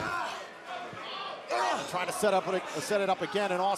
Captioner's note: crowd cheering